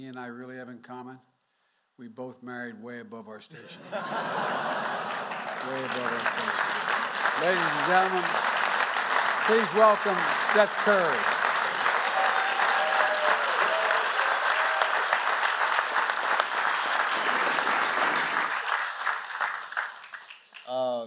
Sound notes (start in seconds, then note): 3.5 laughter; 6.1 applause; 12.7 applause